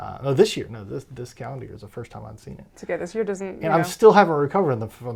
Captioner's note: none